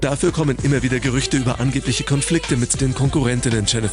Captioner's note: german